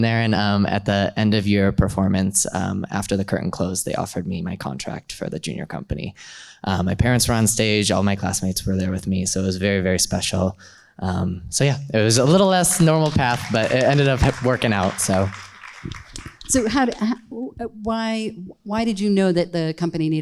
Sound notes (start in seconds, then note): 15.0 audience claps